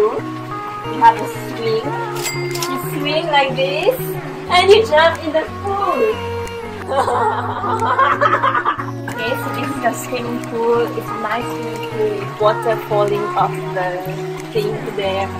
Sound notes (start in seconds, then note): 6.8 crazy Laughter